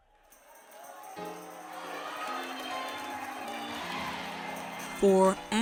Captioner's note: church congregation cheers